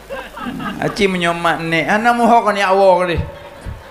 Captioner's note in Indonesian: tertawa